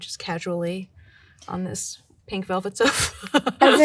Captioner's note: chuckling